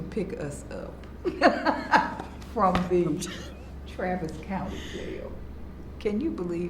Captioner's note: laughs